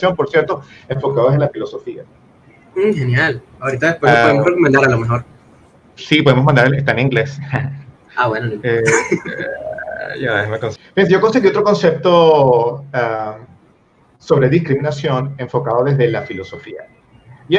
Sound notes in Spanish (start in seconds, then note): 8.8 Risas